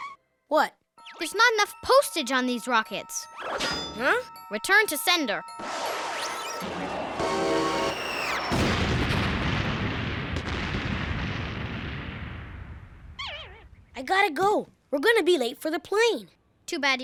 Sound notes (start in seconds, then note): 8.9 explosion